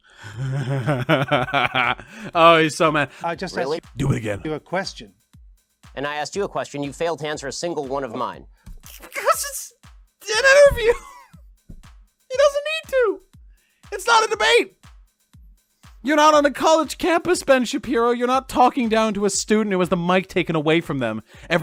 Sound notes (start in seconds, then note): 0.2 sinister laugh; 10.8 cracking up